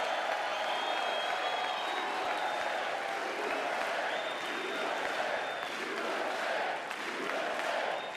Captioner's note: applause